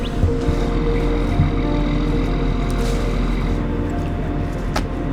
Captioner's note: engine rumbling